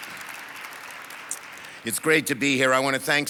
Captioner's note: audience applauds